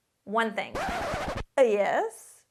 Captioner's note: record skips